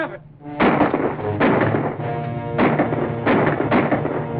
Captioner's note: gunshots firing; instrumental music playing